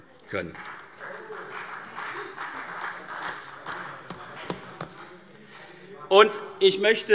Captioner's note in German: Beifall CDU und BÜNDNIS 90/DIE GRÜNEN - Zuruf SPD: Oh!